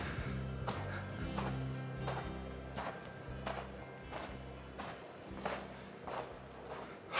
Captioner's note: footsteps